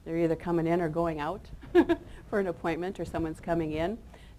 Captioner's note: chuckles